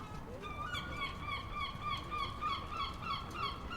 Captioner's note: seagull calling